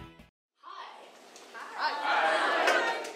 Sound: voiceover

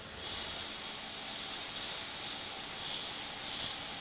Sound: machine whirring

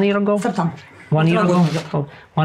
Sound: speaking in a foreign language

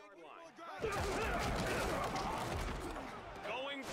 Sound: grunting and crashing

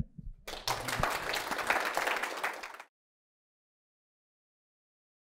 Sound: applause

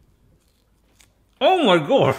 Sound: jerky cracks

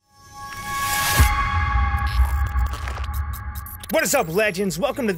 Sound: transition and glitching sound

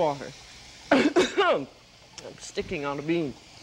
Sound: coughs

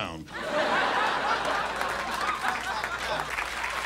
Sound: audience laughs; applause

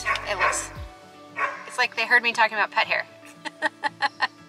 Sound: barking

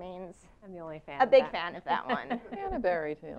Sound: laugh

